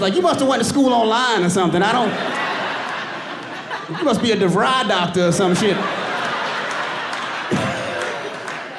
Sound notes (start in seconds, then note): 1.3 giggles; 1.6 audience laughing